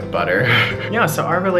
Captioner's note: laughing